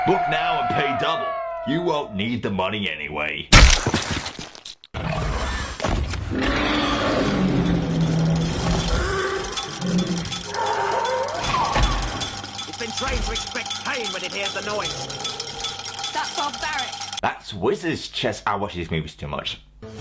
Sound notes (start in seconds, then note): 3.5 Squish; 6.2 Dragon growls, then roars; 7.3 rattle sounds